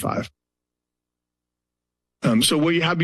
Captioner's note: pause